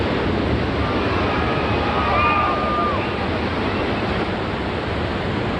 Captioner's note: water roaring; people screaming